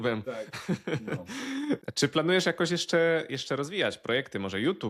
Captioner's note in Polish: śmiech